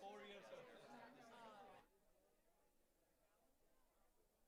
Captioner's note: crowd muttering